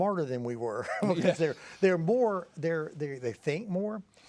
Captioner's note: both chuckling